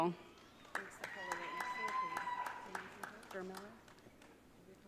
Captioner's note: audience cheering